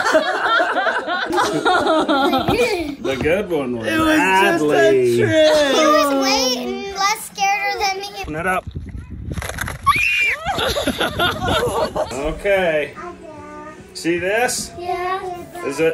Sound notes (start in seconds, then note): 0.0 laughter; 9.8 screams